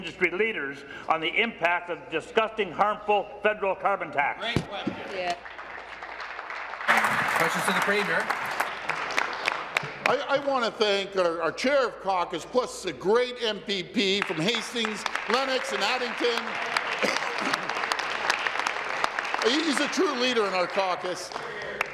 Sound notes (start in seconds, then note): 9.4 applause